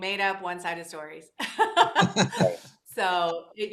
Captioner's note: all laugh